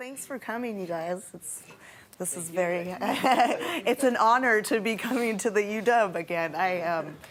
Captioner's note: laughs